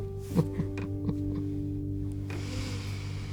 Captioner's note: chuckles